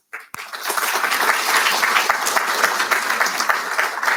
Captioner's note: audience applauding